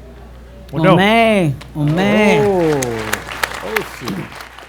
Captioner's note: applause